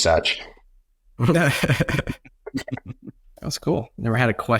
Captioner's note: guests laugh